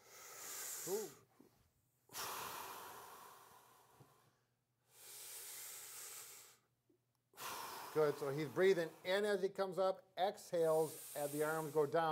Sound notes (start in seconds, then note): 0.0 inhales and exhales; 2.0 inhales and exhales again